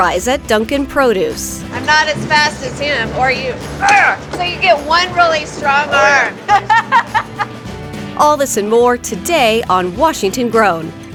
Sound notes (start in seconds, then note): 5.8 laughs